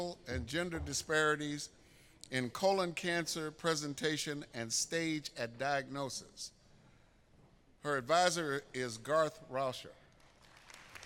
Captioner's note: applause